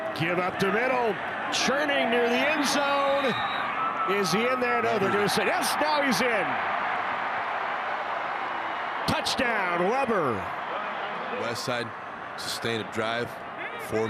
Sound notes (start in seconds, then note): 2.4 referee blows whistle; 5.9 fans cheer